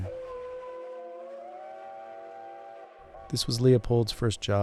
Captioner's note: train horn whistling